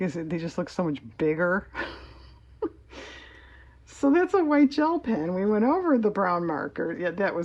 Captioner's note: laughs